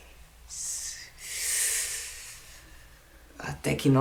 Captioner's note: sigh